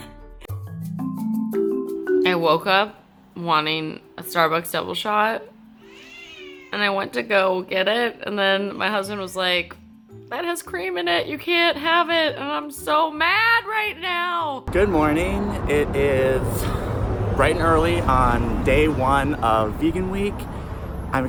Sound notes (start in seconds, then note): 0.6 gentle music; 5.8 cat meows